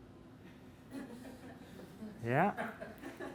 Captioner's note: laughing